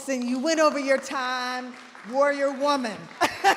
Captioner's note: audience applauding